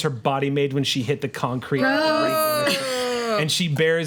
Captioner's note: group oohs